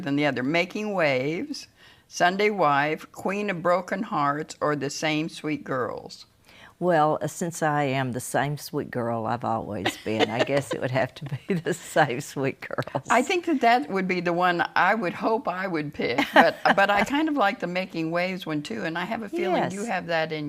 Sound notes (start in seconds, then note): 12.8 both laughing; 16.1 laughs